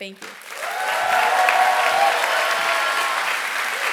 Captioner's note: applause